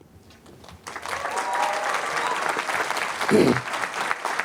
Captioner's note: applause